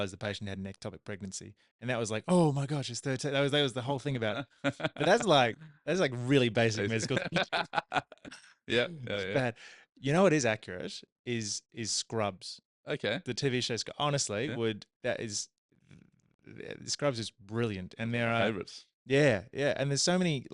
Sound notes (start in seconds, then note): 6.9 laughing